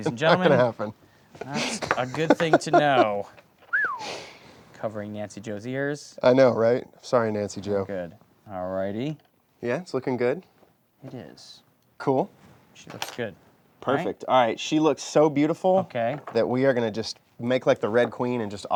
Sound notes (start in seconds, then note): 1.4 laughing; 3.6 whistles